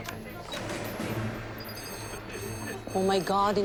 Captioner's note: monitor beeping